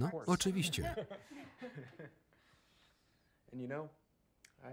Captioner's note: Claire and Ben laughing